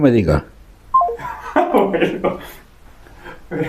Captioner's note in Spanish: risas